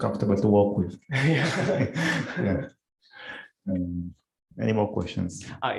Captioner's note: laughter